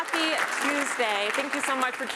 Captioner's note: applause